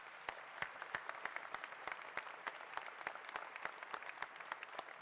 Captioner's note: applause